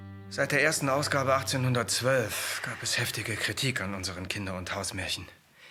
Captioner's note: speaking in foreign language